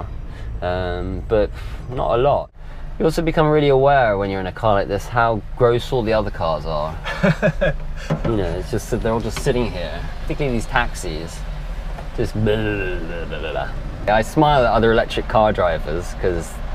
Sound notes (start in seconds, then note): 12.2 engine noise